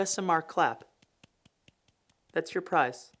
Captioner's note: hands clapping